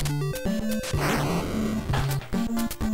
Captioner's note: fwoosh